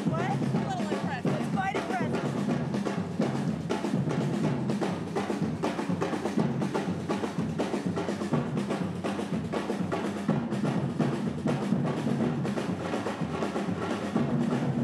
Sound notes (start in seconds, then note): 0.0 chatter; 8.9 drums